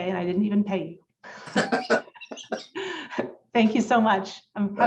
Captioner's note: laughter